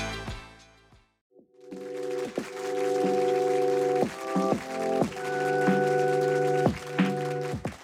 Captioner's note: applause, with instrumental music playing in the background